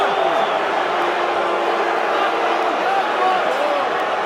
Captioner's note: crowd boos